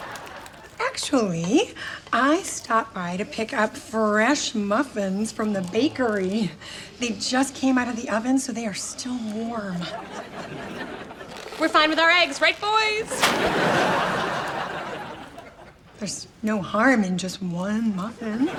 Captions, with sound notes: - Actually I stopped by to pick up fresh muffins from the bakery. They just came out of the oven so they are still warm. (laughs) - We're fine with our eggs, right boys? (laughs) - There's no harm in just one muffin.